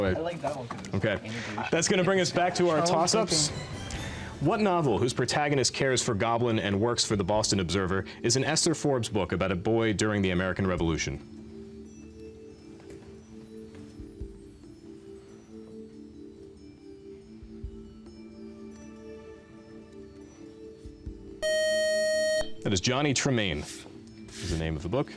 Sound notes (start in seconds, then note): 11.5 soft music; 21.4 beep